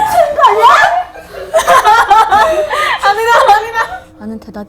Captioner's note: panic-stricken